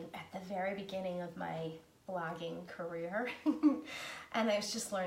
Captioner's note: laughing